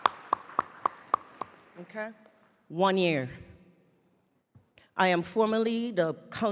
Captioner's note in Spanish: Aplausos